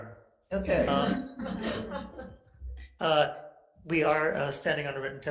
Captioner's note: attendees laughing